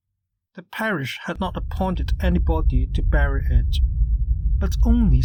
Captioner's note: humming noise